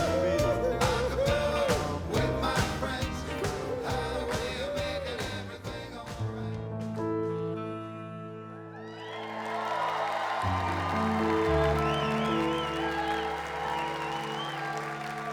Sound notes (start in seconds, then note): 6.0 melodic piano music plays; 8.8 audience cheers